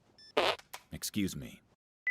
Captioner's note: fart noise